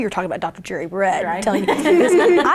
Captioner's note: all laugh